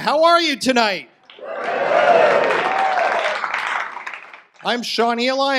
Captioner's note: audience applause